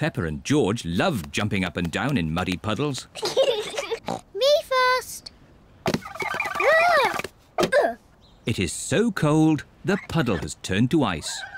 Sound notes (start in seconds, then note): 3.3 snorts